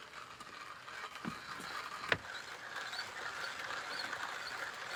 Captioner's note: grinder scraping